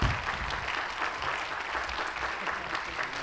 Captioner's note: applause